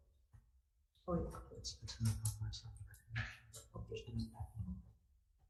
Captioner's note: pair conversing quietly